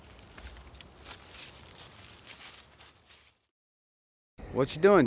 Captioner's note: none